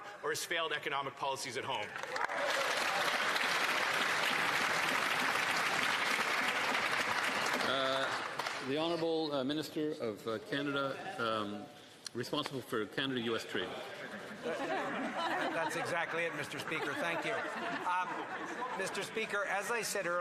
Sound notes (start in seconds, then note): 8.5 some Applause